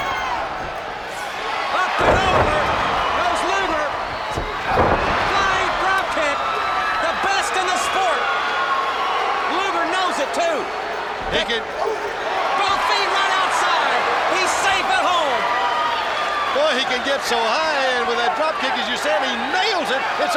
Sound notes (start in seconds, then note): 0.0 body thudding; 0.1 footsteps plodding; 3.6 blows thudding; 4.6 body thudding